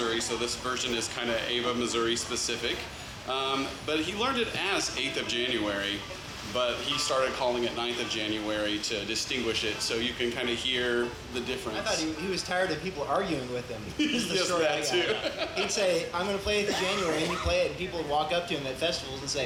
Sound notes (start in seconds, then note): 16.6 laughs